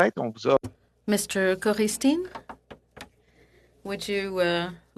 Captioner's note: speaking French